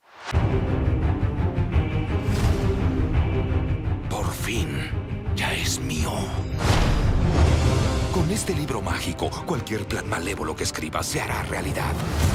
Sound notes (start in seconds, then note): 0.2 dramatic music; 4.3 speaking in Spanish